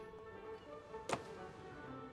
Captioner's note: door closes